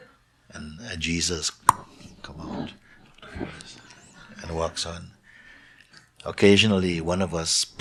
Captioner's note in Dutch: pop!